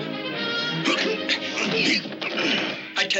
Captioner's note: grunting